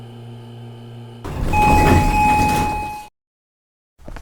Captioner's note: 1992 Otis Series 1 Chime Down & Elevator Opens